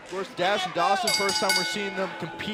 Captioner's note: bell